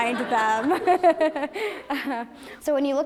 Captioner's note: laughter